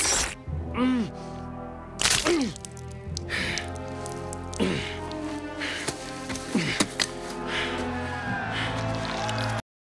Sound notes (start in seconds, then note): 3.2 panting